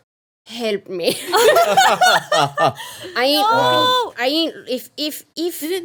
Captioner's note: everyone laughing